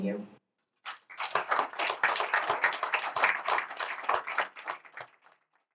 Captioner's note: applause